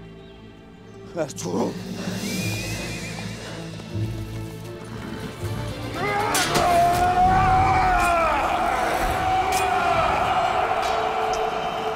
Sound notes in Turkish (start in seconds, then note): 2.2 At kişneme sesi; 6.0 Dövüşme sesleri